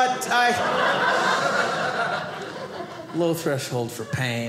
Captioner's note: audience laughing